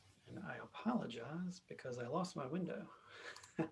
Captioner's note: soft laugh